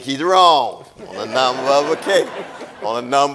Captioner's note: audience laughing